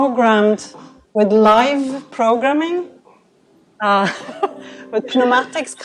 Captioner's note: chuckles